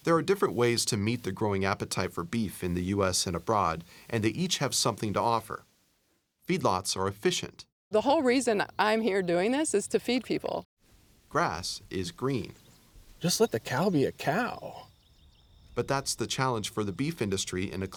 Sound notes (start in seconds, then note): 0.1 voiceover; 11.4 voiceover; 15.8 voiceover